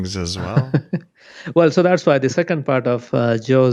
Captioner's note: laughs